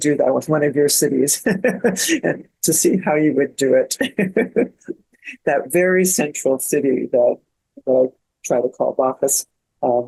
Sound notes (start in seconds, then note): 1.3 laughing; 4.9 laughs